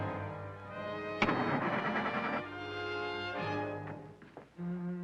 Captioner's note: engine puttering